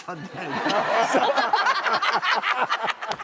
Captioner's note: laughing